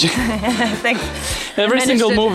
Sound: chuckles

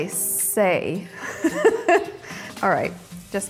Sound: laughs

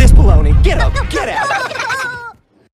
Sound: Minions Giggling laughing Chuckles

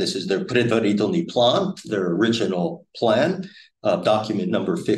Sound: speaking Russian

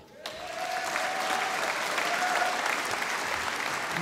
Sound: audience applauding

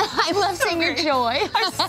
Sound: laughs

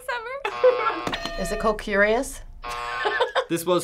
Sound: buzzer

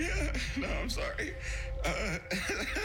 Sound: laughs

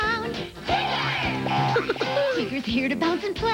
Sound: spring noises, Tigger's "hoo-hoo-hoo-HOO!" giggle

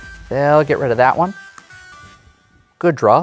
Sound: card slaps

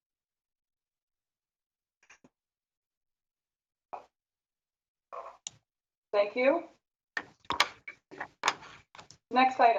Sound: moment of silence

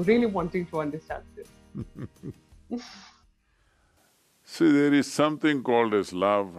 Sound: Sadhguru laughs

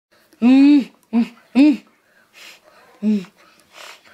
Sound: grunts

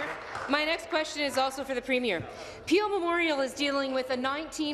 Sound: applause

